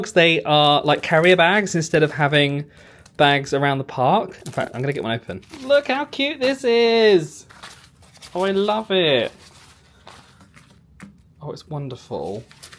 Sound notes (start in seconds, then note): none